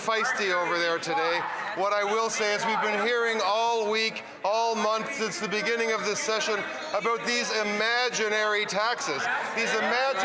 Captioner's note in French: voix de l'interprète